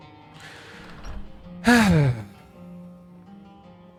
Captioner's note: sigh